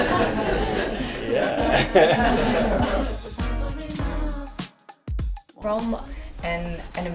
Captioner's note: laughter; laughs